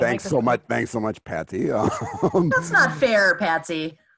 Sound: laughs

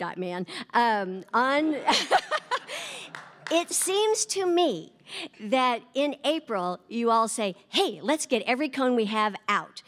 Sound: laughter

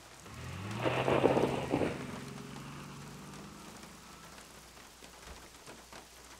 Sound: car pulling away

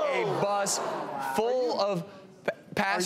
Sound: group gasps

